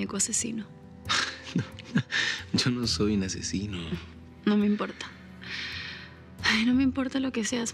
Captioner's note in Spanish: Risas